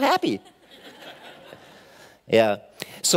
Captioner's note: laughing